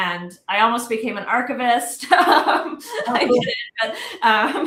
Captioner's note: laughs